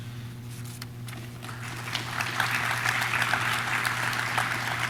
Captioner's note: audience claps